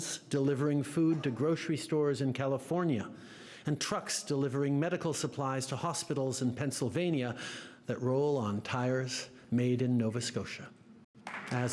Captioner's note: applause